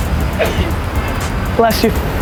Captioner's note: woman on street sneezes